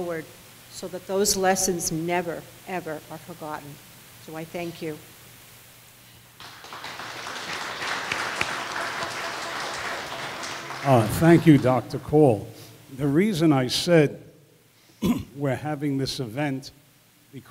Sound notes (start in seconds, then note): 6.4 audience applause